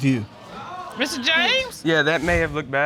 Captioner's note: audience exclaiming